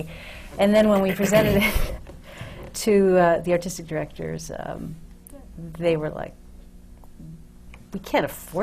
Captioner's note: laughs